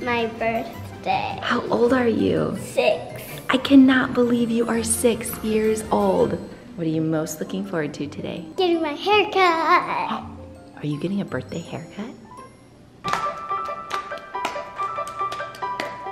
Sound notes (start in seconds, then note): 11.0 gasps; 13.3 playful music